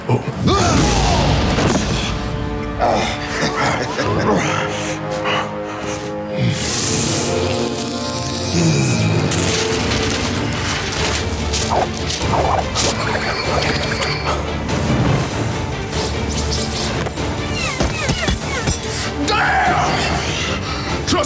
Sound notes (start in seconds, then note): 0.2 air whooshing; 2.7 Carl grunting; 3.2 janitor laughing; 7.0 electricity crackling; 9.0 paper flapping in air; 12.7 paper whooshing; 15.1 air whooshing; 19.2 Carl screaming angrily